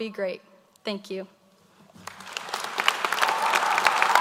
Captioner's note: applause